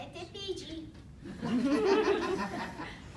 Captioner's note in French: rires